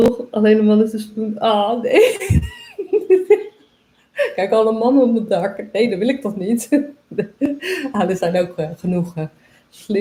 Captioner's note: laughs